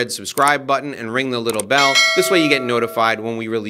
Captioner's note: bell rings